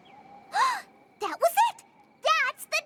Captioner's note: gasps